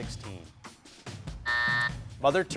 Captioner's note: buzzer buzzing